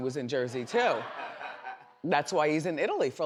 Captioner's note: audience laughs